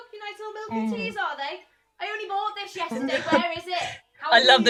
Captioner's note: Sketch audio plays